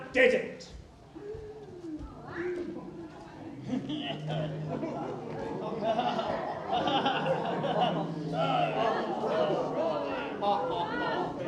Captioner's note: chatter